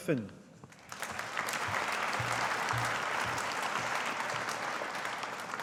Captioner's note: audience applauding